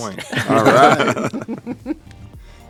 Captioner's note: laughter